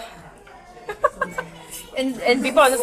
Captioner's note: laughter